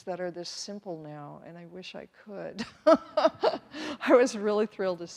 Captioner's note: laughs